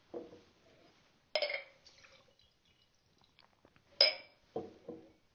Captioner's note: glasses clanging